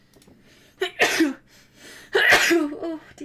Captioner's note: sneezes